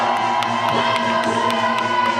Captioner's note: applaud